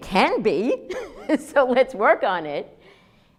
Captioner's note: laughs